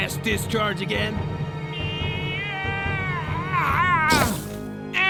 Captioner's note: Gaylord_Steambath wails in summoning